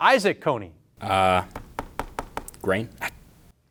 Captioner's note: fingers tapping